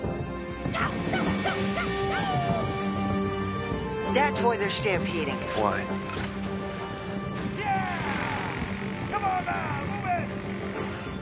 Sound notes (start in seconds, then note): 0.6 Frank yelling